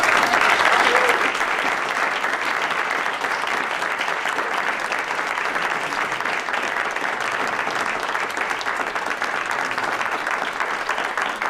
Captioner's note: applause